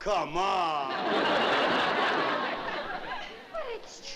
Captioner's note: laughter